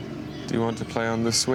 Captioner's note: swings squeak